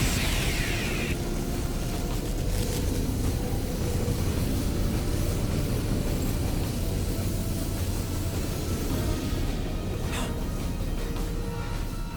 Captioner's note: explosion; gasps